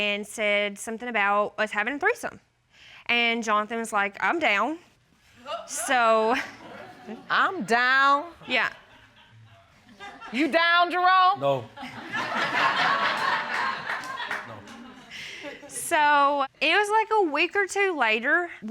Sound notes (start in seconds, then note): 5.4 audience exclaiming, laughing; 11.7 audience laughing